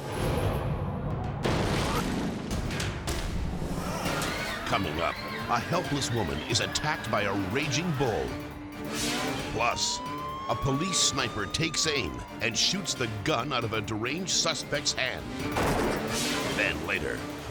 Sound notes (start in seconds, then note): 1.6 jet crashing; 3.2 dramatic music; 3.8 crowd shrieking; 15.5 gunshot fires